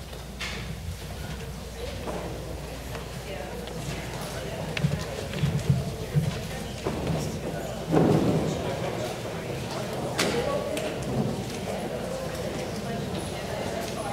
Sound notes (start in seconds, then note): 2.5 audience chattering